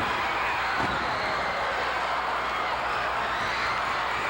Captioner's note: floor banging